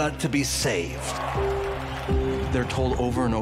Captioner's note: audience cheers